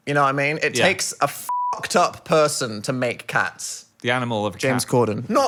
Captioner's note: beep